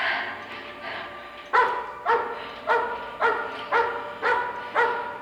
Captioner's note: breathing heavily; suspenseful music; dog barking